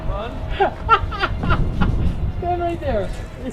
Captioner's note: laughs